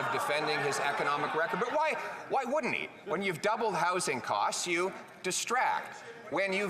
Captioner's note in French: voix de l'interprète